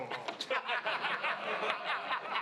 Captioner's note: crowd laughing